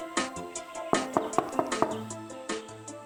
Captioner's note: knocking on the door